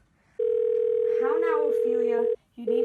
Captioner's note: phone ringing